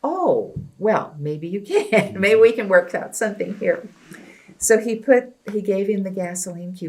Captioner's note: laughs